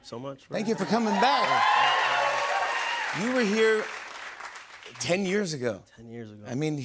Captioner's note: cheers and applause